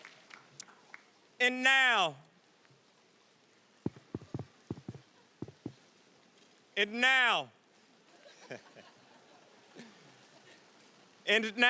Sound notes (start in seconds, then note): 3.8 mic rustling; 9.5 laughs